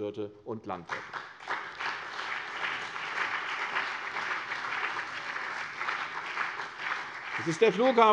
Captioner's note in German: Beifall CDU und BÜNDNIS 90/DIE GRÜNEN